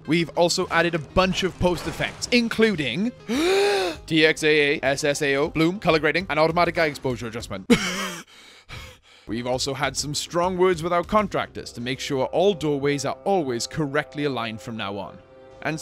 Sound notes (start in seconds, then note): 3.3 takes deep breathe; 8.1 gasps for air